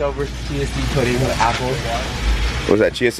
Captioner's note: indistinct conversation